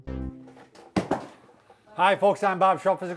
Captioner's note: hands banging on desk